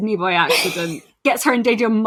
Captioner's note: laughs